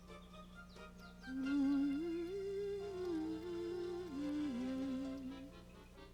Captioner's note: humming